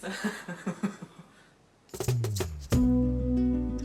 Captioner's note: family laughing; upbeat music